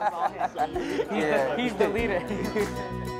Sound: laughter

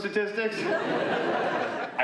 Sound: laughter

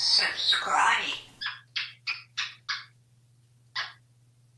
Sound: kissing sounds

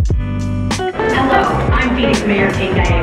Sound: PA Announcement

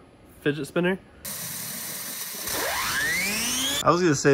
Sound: machine whirring

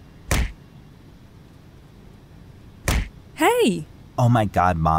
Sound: seat kicking

